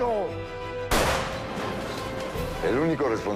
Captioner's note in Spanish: Disparo